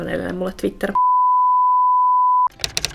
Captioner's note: beep; typewriter tapping and calm music